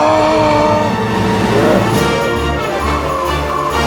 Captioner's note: evil laughter